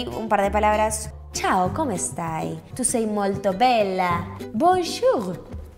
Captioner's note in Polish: włoski